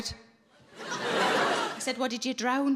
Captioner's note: audience laughing